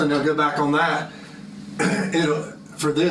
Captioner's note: cough